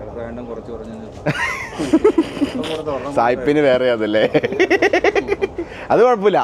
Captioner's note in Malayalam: പൊട്ടിച്ചിരി